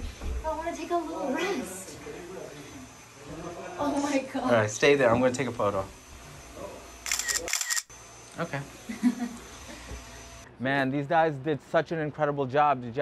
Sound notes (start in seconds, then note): 2.0 background chatter; 7.0 camera clicks; 8.8 girl laughs